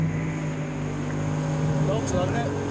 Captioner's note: boat motor purrs